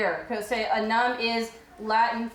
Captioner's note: speaking foreign language